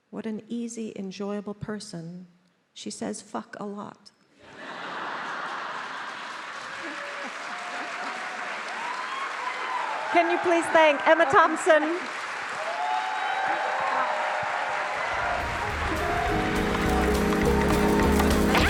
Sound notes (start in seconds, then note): 4.4 attendees applauding; 4.4 attendees cheering; 12.1 attendees applauding; 12.1 attendees cheering; 15.2 lively music